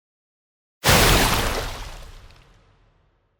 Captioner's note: splash